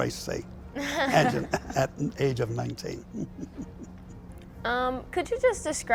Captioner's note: chuckles